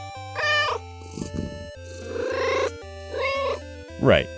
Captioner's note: meow